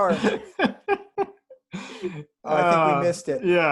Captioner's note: laughs